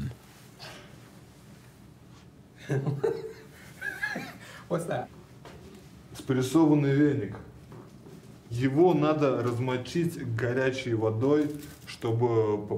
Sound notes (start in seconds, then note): 2.6 Reggie laughing; 5.9 speaking in foreign language